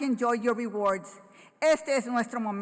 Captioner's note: foreign language